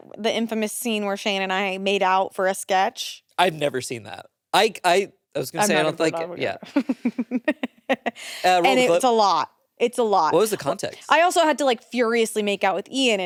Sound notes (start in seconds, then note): 6.6 giggles